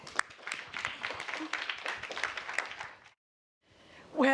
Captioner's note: applause